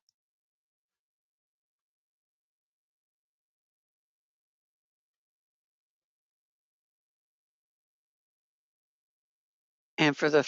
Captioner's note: 9 seconds pause